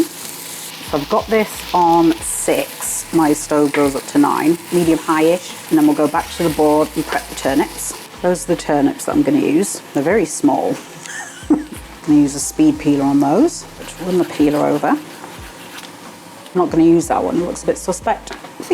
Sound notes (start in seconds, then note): 10.8 laugh